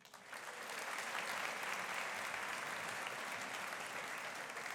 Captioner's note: audience applauding